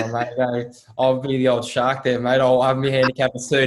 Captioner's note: laughs